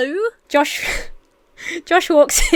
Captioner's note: Emma laughs